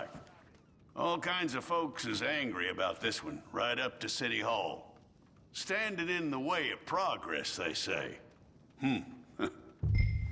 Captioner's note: chuckles